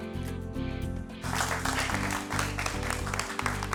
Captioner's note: clapping